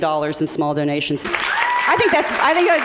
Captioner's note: applause